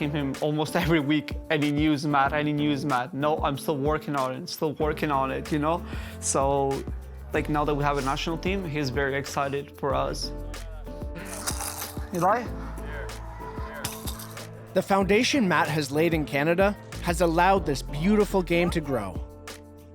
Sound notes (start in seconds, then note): 13.8 bells jingle in ball